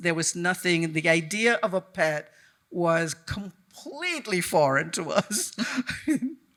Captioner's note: chuckles